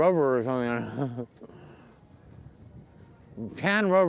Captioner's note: chuckling